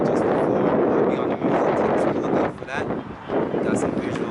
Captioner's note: wind rushing